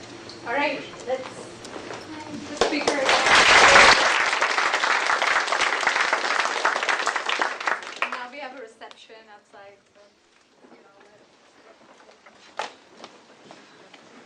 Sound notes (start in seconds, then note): 2.6 applause